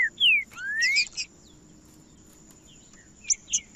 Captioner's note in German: trinca ferro cantando